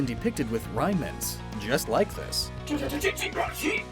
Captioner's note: Regichi’s cry